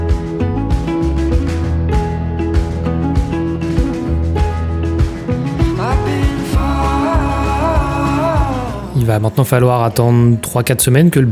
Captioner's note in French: chant